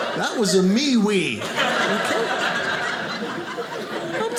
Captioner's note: audience laughing